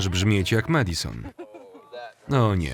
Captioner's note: laughing